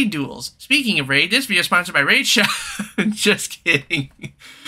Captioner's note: laughing